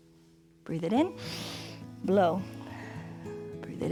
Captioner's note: inhales